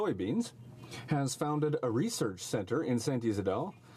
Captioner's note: speaking French